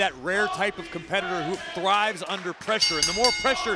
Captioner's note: bell rings